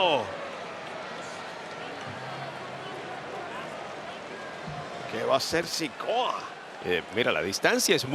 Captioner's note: applause